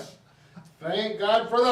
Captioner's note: laughing